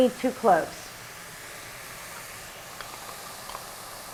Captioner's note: sound of mushrooms sizzling